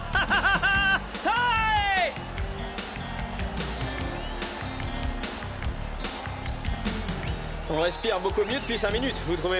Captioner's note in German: beifall